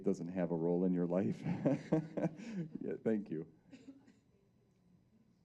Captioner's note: laughing